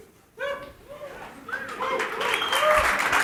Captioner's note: applause